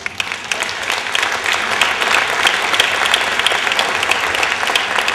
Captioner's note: applause